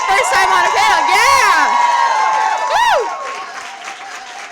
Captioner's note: applause